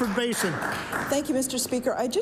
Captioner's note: applause